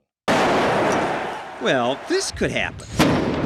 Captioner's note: grenade echoes